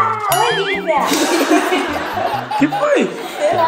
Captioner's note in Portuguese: risada de bebê; risos